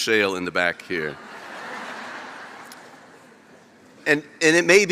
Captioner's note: laughter